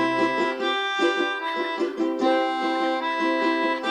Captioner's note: seagull squawk